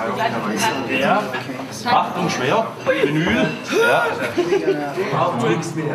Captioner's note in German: ächzt; Stimmengewirr